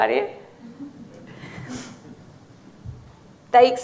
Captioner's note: audience laughing